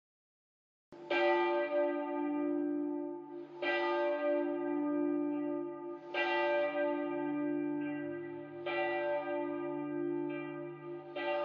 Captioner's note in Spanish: Campanas